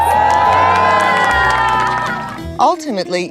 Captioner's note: crowd cheers